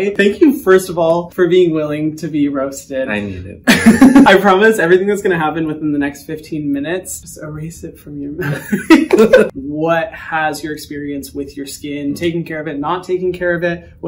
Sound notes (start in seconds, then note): 3.6 laughs; 8.4 laughter